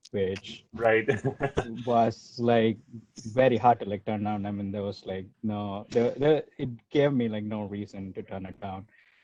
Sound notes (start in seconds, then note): 0.8 laughs